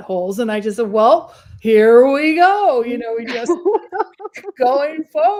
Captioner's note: laughs